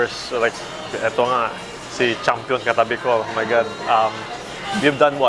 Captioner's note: speaking in foreign language